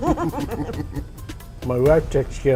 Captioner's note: ^laughter^